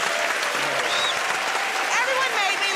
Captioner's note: cheers and applause